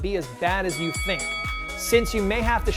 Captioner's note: ringing bell